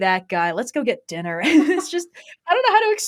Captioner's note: laughs